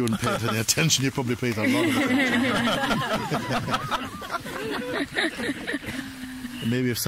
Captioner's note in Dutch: gelach